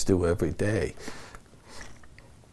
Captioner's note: chokes up